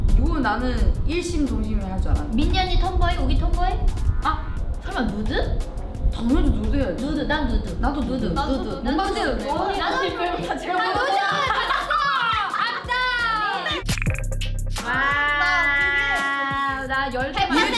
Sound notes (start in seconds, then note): 0.2 speaks in Korean; 7.2 everyone speaking in Korean; 16.0 speaks in Korean